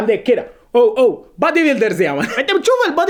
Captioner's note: laughter